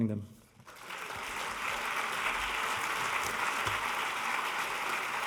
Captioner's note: audience applauding